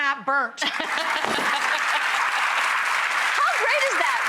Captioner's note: applause